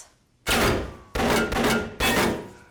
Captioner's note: gunfire resumes